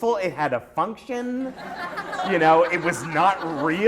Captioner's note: laughter